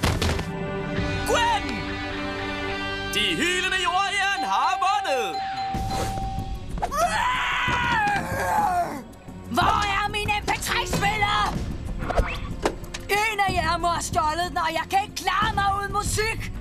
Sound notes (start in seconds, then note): 6.9 eva screaming